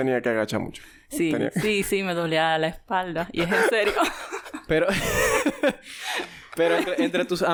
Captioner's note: laughs